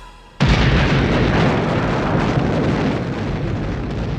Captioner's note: C-4 explodes